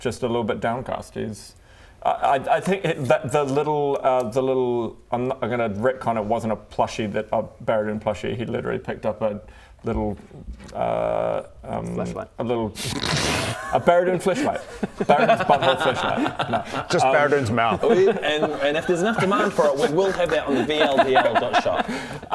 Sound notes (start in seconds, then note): 13.0 snickering